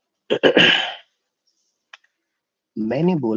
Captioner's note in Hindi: गला साफ़ करने की आवाज़; खांसने की आवाज़